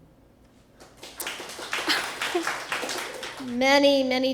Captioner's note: applause